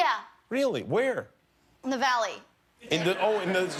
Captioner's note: laughter